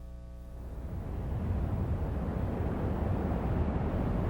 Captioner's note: intense rumbling